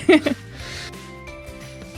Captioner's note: chuckles; upbeat music